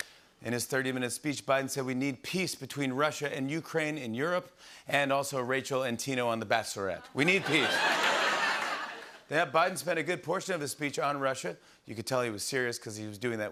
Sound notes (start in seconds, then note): 7.0 laughter